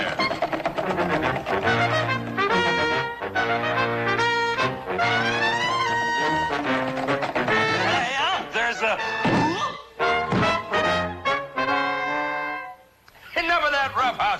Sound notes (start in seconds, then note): 0.2 lively music; 10.2 Waldo banging